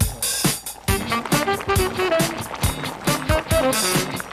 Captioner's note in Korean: 보글 보글